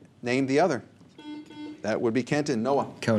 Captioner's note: buzzer